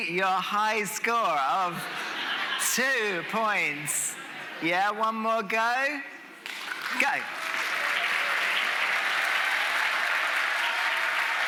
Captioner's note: audience making noise